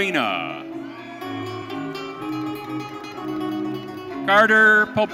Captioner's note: audience cheering